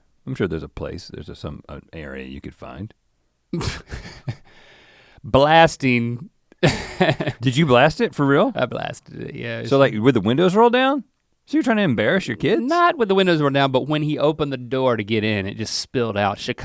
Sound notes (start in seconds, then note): 3.5 laughs; 6.6 chuckles